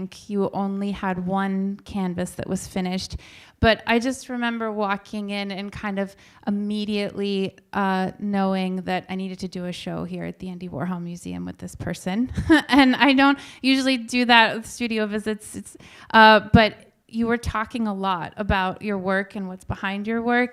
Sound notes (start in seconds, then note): 12.3 chuckles